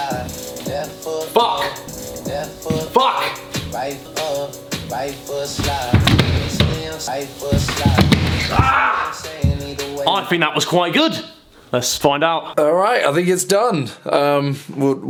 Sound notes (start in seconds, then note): 8.6 screams